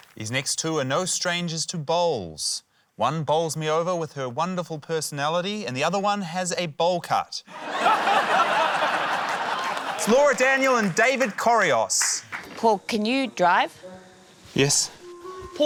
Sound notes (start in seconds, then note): 7.5 laughter